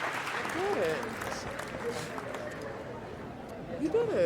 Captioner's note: Malcolm sniffling